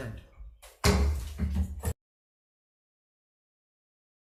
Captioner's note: gavel banging